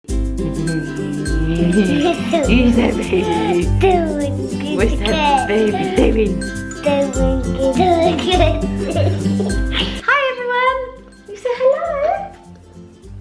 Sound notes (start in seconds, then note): 0.0 happy upbeat music; 1.0 laughs; 6.6 happy upbeat music; 6.6 laughs